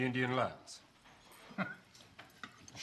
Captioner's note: chuckles